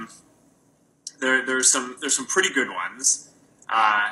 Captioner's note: stutters